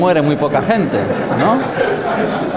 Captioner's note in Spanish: risas